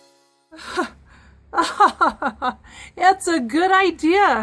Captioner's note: laughing